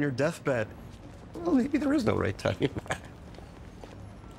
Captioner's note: laughing